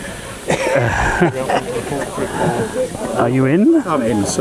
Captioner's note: laughter